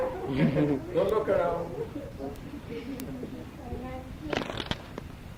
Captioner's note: speaking in foreign language